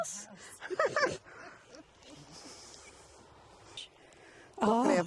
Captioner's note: laughing